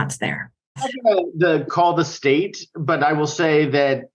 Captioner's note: speaking faintly